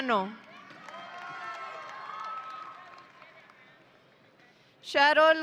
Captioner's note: audience cheering